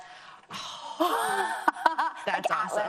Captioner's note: laughs